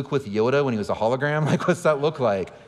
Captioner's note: laughing